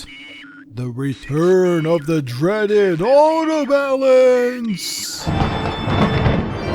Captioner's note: elongating every word in a spooky voice; thunderclap